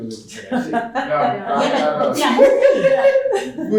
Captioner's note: laughter